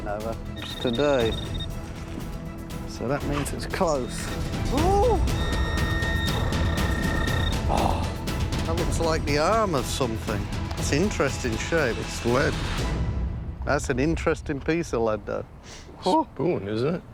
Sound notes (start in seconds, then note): 3.9 beeping increases